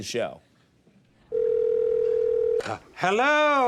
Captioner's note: phone rings